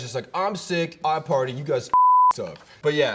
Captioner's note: beep